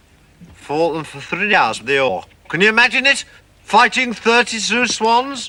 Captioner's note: none